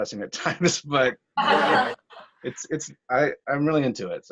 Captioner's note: laughter